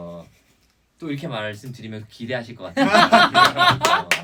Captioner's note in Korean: 빵터짐